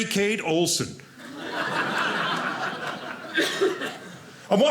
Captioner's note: audience laughing